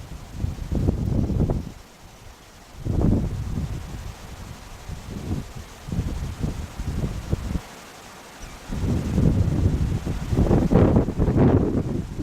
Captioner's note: wind noise